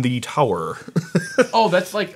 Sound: laughs

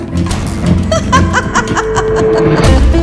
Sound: sarcastic laugh

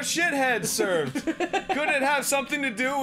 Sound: laughing

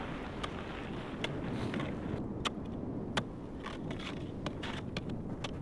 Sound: shovel thumping on snow

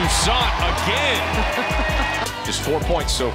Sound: laughs

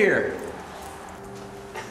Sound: laughs

